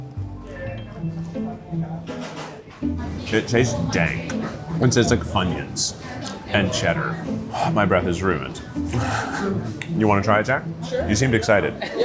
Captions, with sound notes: (gentle playful music) It tasted dank. It tastes like Funyuns and cheddar. (exhales sharply) My breath is ruined. (chuckles) You wanna try it, Jack? - Sure. - You seemed excited.